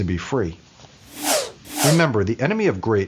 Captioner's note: whooshing